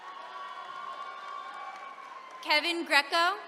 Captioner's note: attendees cheering